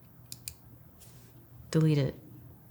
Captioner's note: computer mouse clicking